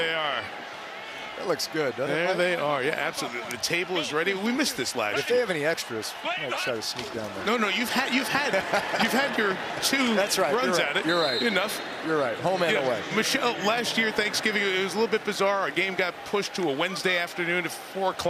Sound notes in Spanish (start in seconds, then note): 1.9 risas